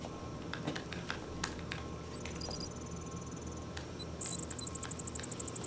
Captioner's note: typing